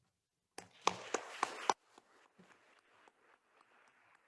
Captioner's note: attendees applauding